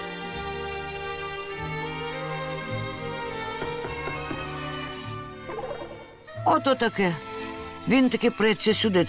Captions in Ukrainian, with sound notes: (стукіт у двері) Ото таке, він таки преться сюди,